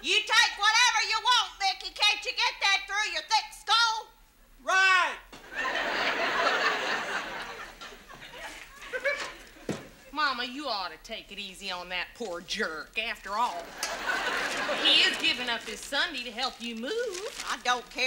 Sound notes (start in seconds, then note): 0.2 yelling; 5.4 audience laughs